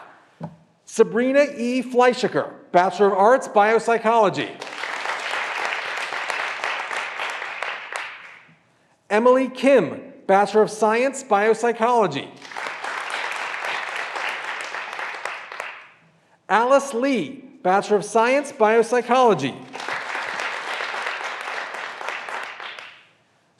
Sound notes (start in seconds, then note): 4.6 graduands applauding; 12.4 graduands applauding; 19.6 graduands applauding